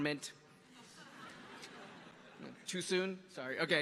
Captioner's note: audience laughing